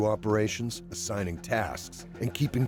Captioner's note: voiceover